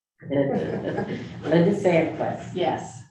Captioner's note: group laughing